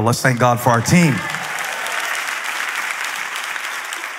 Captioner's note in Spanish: Aplausos